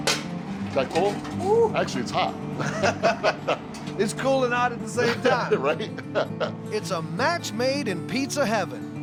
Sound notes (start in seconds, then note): 2.6 both laughing; 4.9 laughs